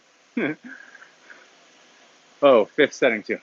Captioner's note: laughs